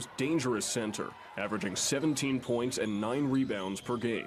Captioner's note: nat pop of cheering crowd